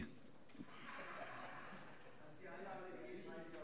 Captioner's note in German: Heiterkeit